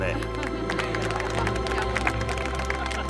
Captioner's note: All clapping